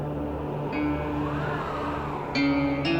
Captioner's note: winds rise